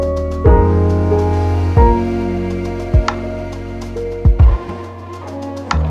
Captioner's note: boo